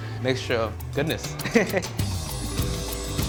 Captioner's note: chuckles